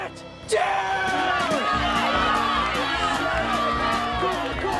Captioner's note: crowd cheering